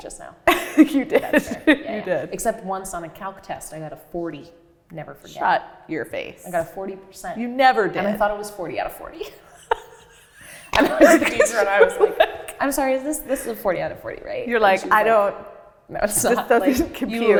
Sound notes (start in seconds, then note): 9.2 laughs